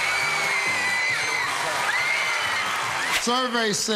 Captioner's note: all screaming